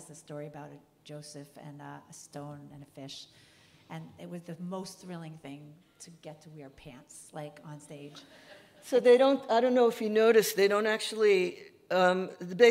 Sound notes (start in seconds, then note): 8.2 audience laughing